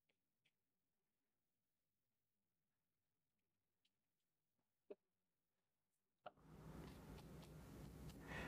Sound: silence

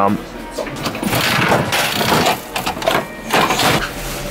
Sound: crank turning

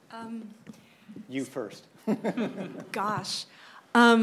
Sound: laughs

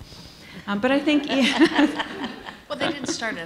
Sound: laughter

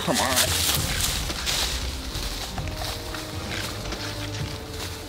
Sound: leaves crunching

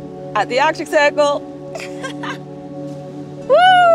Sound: laughs

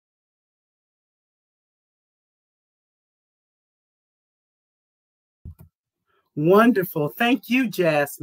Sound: no audio

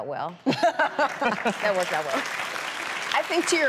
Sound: audience applauds

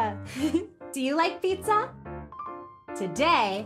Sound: giggles

